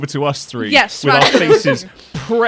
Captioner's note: laughter